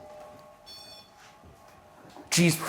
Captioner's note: REM-Pod beeping